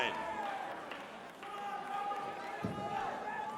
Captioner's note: crowd cheering